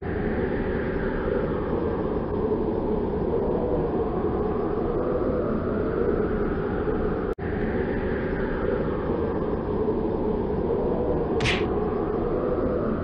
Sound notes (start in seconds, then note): 0.2 wind blowing; 11.4 thud